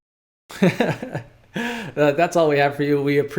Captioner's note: chuckles